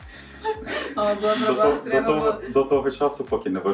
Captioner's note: laughs